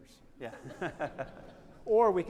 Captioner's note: attendees laughing; laughs